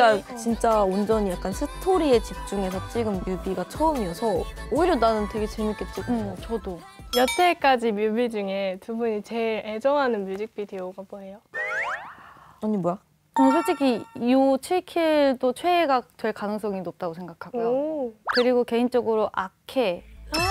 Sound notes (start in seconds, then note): 12.0 hmm